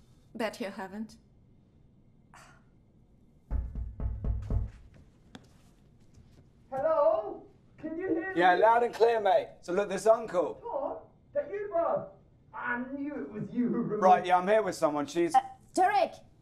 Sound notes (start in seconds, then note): 2.1 scoffing; 3.4 knocking